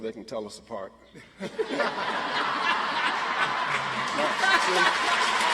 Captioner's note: audience laughs and applauds